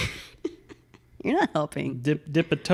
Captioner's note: laughs